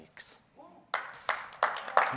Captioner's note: applause